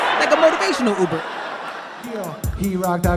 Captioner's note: crowd laughs